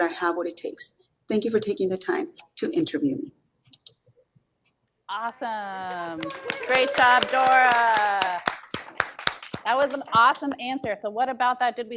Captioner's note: clapping in audience